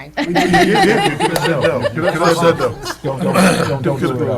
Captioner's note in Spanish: Risas